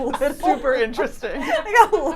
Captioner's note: laughs